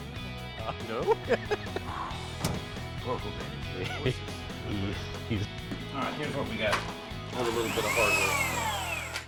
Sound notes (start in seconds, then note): 0.9 laughs